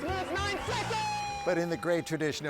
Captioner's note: attendees cheer